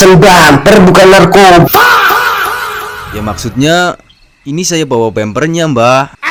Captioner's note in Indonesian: berteriak